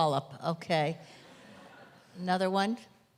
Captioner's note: audience laughter